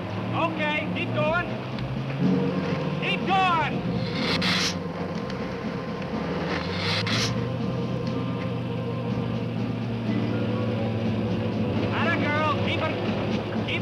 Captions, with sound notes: Okay, keep goin'. Keep goin'! (Gila monster hissing) 'Atta girl, keep it goin'!